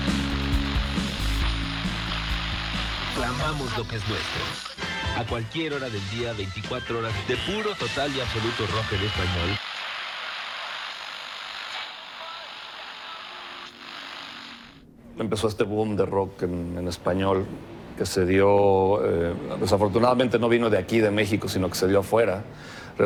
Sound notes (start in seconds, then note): 13.2 radio static